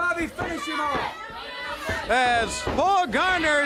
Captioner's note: crowd cheering